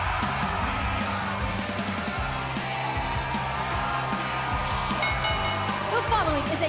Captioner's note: cheers and applause; bell ringing